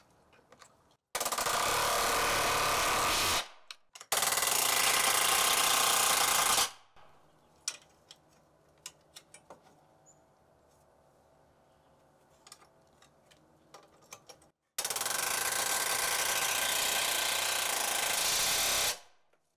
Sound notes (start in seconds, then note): 1.2 air wrench grating; 14.9 air wrench grating